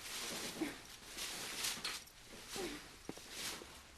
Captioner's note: grunting